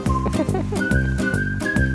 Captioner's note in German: Lachen